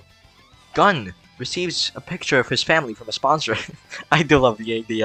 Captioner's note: laughs